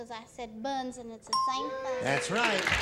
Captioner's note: ding; applause